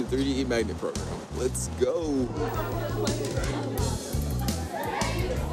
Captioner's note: students laugh and chatter